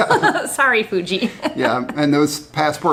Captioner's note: both laugh; laughs